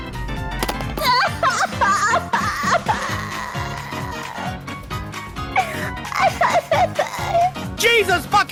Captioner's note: crying